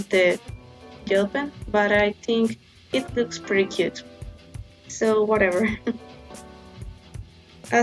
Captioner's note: giggles